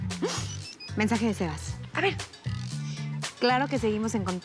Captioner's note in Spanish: Suena el teléfono